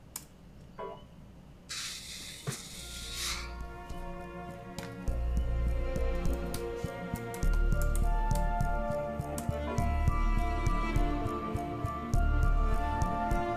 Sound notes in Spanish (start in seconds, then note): 0.8 Pitido; 1.7 Soplido